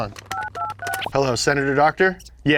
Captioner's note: dialing tone